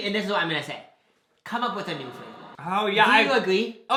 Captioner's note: echoing